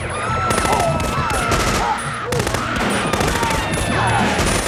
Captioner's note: machine gun firing; people screaming; machine gun firing